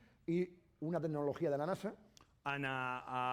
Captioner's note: speaking spanish